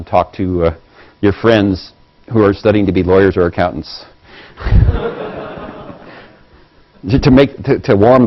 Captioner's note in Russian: Смеются